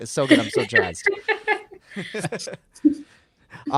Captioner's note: laughing